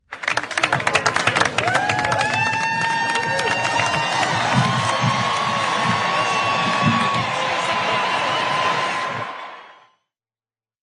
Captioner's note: applause